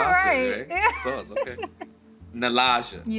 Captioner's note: laughs